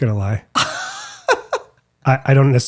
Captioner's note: laughing